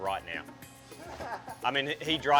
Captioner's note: laughing